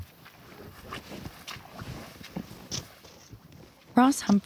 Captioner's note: water splashes